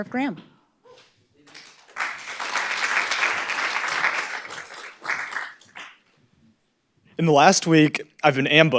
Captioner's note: applause